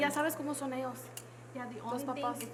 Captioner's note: woman speaks Spanish